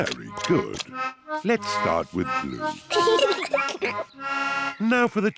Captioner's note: both giggle